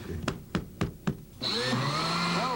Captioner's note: laughing; tapping; whirring